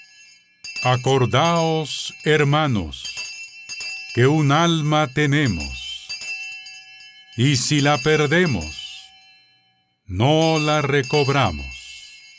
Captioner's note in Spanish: campana